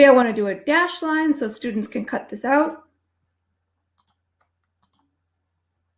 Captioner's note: mouse clicking